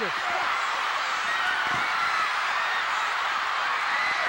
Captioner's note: audience cheering